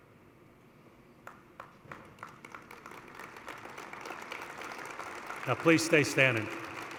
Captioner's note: applause